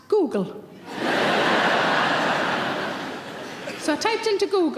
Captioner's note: audience laughing